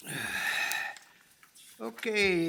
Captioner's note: sighs